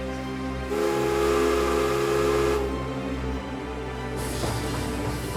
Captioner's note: emotional orchestral music continues; train whistle blowing